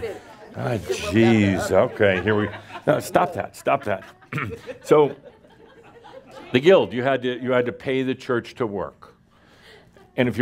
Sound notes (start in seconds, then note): 5.0 some laughter